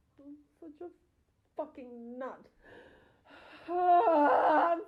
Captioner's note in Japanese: 怒って泣いている